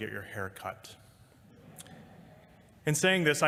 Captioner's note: laughter